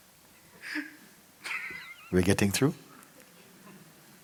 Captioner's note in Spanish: El interlocutor se ríe silenciosamente en segundo plano